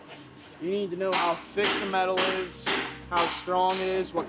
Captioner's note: banging sounds